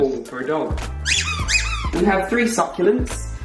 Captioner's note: dog toy squeaks